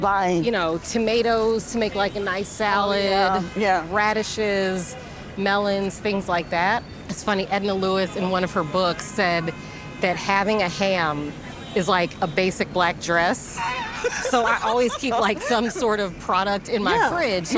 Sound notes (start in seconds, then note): 13.5 laughter